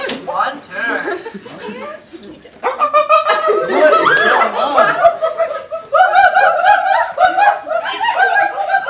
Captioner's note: monkey noises